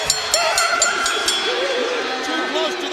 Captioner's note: bell ringing